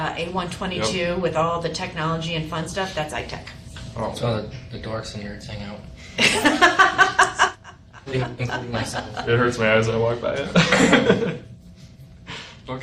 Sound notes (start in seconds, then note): 6.2 laughs; 10.4 chuckles